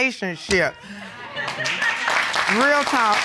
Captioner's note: audience cheering and clapping